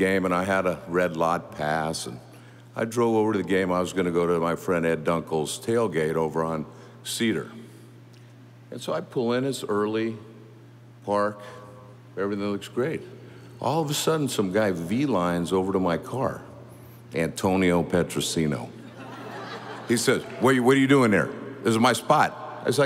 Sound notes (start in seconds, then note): 18.8 audience laughing